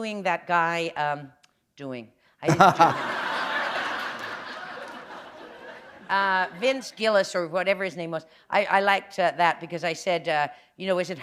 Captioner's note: laughter